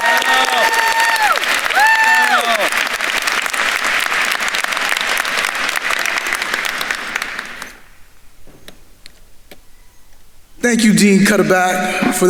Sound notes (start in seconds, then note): 3.4 attendees applauding